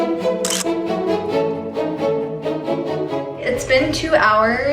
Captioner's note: camera shutters